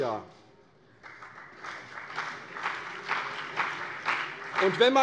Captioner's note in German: Beifall CDU und BÜNDNIS 90/DIE GRÜNEN